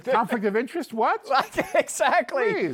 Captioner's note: laughing